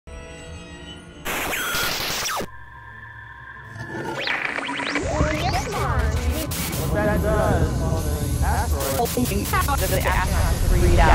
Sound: sound Effects

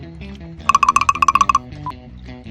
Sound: bottle sound

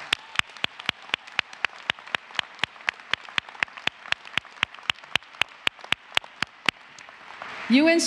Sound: applause

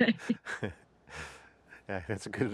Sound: both laughing

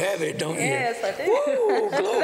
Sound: laughter

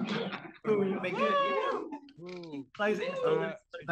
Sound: all laughing

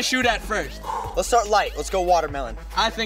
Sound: exhales

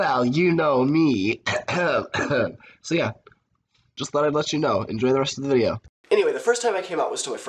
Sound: cough cough

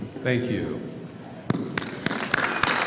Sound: applause

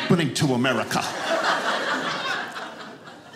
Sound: audience laughing

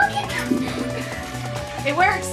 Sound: flushing

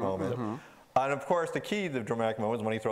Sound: agreeing in unison

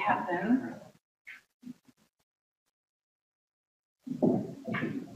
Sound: rubbing paint

